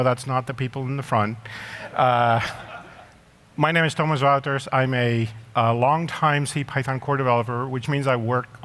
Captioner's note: laughter